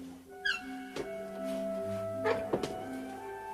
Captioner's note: stairs creaking